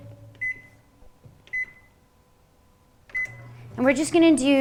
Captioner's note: beeping sound